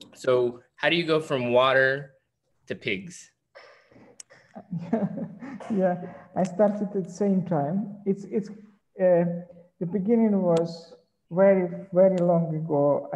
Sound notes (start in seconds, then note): 4.2 chuckles